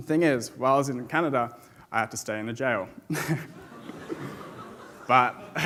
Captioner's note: chuckles; audience laughs